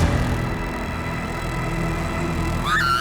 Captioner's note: screaming